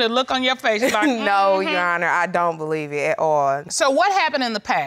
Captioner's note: giggles